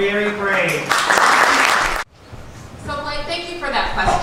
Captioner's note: applause